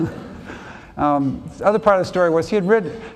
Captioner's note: laughs